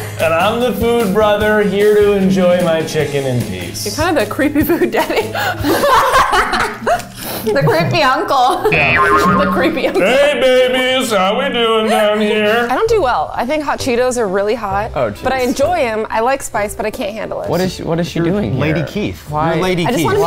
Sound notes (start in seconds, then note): 5.4 laughing